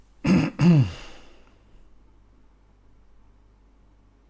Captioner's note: clears throat